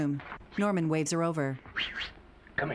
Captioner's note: Norman whistling